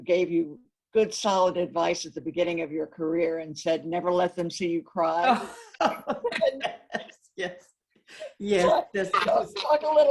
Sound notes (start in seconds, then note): 5.5 both laughing